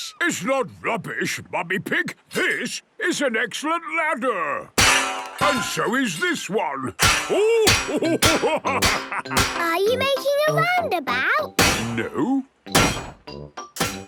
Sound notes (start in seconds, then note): 4.8 clanging; 7.2 laughing